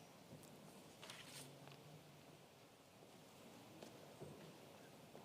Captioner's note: paper rustling